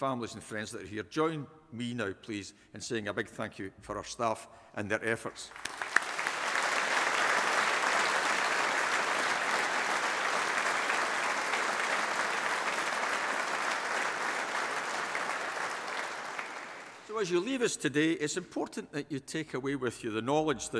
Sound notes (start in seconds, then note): 6.0 audience applauding